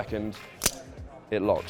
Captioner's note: click sound